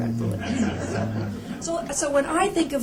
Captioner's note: laughter